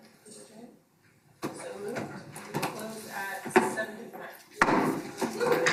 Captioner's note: bangs hammer on table